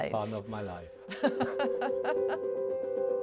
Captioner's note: laugh; soft music plays